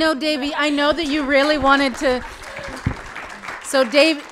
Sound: audience applauding

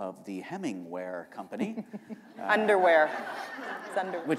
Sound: chuckle

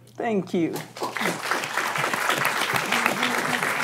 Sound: applause

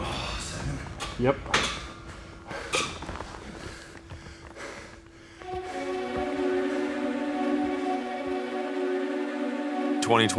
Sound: heavy breathing

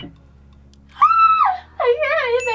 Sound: screams

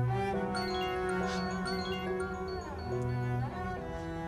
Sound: mobile ringing

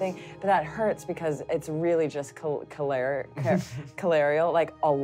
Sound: stuttering

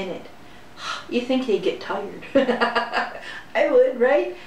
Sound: laughter

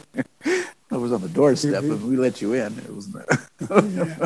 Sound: laughs

